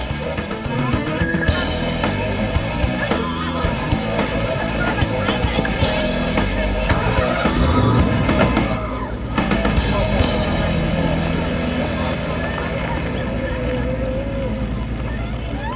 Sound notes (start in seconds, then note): 6.9 engine starts; 11.7 car drives off